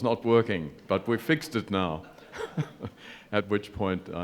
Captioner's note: chuckles